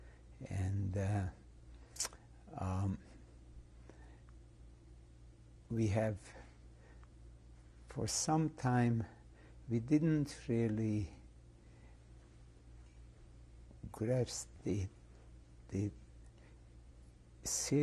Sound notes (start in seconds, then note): 11.2 pauses for 3 seconds